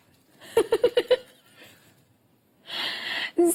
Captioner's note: laughs